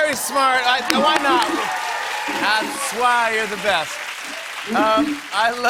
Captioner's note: cheers and applause